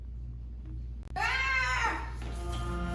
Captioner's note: yells